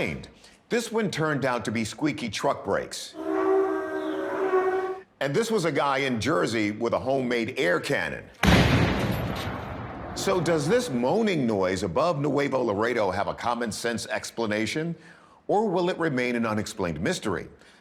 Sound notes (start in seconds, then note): 3.1 squeaking; 8.4 explosion